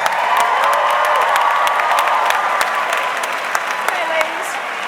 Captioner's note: audience clapping